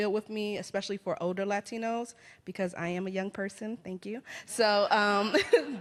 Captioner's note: laughs